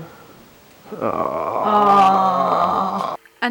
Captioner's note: both groaning